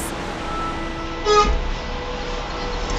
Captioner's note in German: Hupen